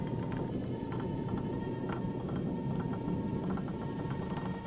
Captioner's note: table creaking